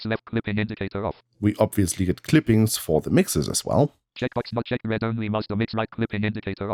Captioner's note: automated voice; automated voice